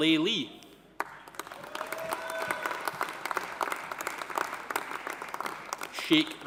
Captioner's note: audience applauding; audience cheering